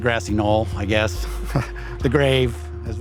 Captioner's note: chuckling